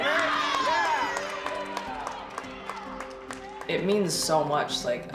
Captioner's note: applause